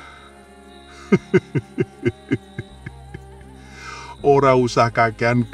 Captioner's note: laughs